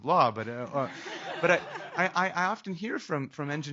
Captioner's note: laughing